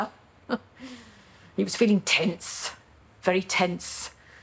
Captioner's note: she chuckles